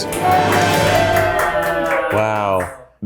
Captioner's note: people in the background cheers and claps happily